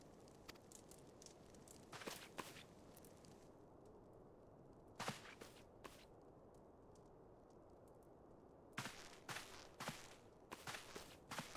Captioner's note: footsteps